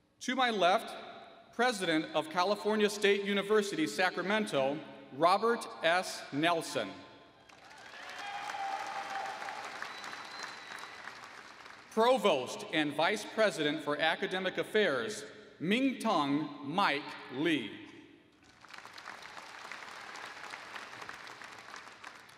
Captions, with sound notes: To my left, President of California State University Sacramento, Robert S. Nelson. [ Applause ] Provost and Vice President for Academic Affairs, Ming-Tung Mike Lee. [ Applause ]